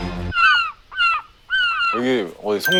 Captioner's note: squawk Squawk